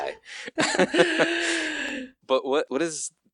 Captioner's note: laughing